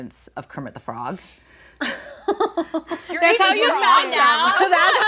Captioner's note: laughing